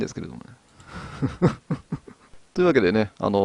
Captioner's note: laughs